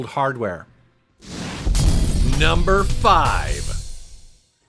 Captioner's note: explosion rumbles